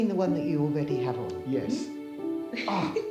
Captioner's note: Grace laughing